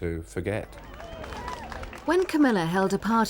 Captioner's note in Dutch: publiek applaudisseert